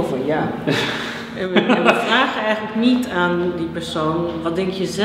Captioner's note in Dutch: lachen